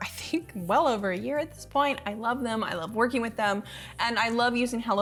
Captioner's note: none